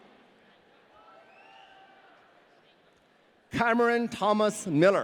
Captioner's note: audience cheering